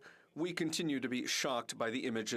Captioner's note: speaking in French